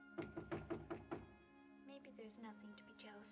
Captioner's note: knocking On Door